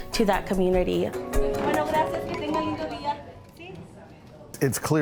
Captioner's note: speaking Spanish